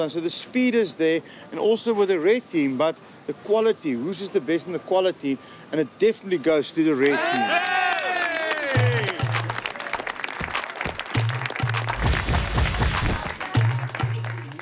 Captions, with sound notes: So the speed is there, and also with the red team, but the quality, whose is the best in the quality. And it definitely goes to the red team. (cheering and clapping) (bold music)